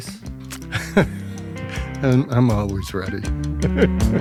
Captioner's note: laughs